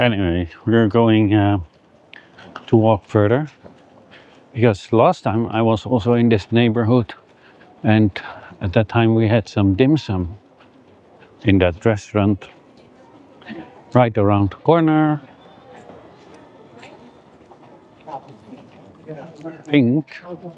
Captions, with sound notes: Anyway, we're going to walk further because last time I was also in this neighborhood. And at that time we had some dim sum in that restaurant. Right around the corner. (speaking in foreign language) Pink.